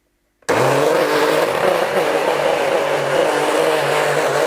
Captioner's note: loud grinding